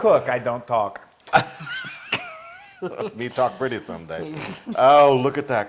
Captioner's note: laugh